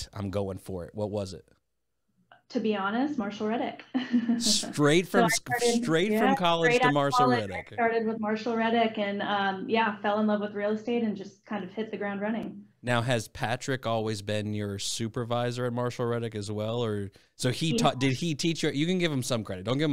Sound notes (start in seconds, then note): 5.0 laughs